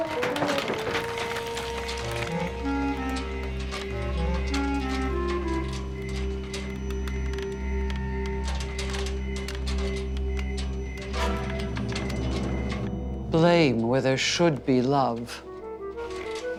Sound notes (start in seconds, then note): 1.0 rocks clattering; 3.3 dramatic music